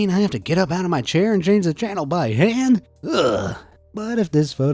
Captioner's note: groans